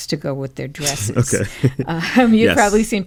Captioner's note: laughter